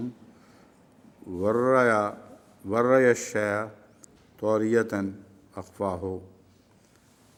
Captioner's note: Arabic